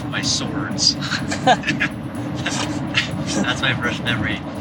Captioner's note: laughter